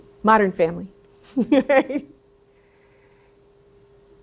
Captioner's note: laughs